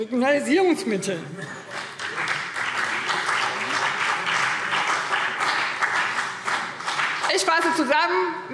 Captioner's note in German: Beifall BÜNDNIS 90/DIE GRÜNEN